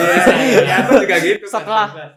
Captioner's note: laughter